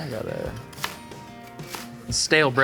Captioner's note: bread crunching